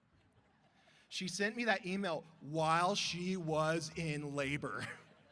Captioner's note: brief laughter